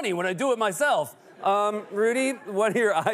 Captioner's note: laughter